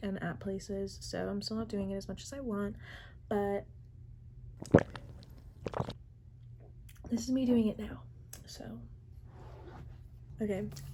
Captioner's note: ~wine gulp~